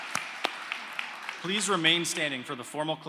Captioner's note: applause